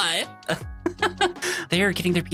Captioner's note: laughing